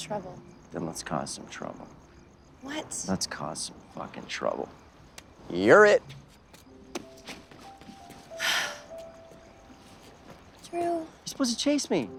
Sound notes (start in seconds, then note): 8.4 sigh